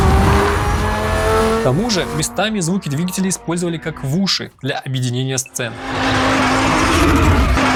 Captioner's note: engine like riser